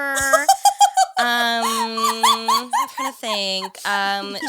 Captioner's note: laughing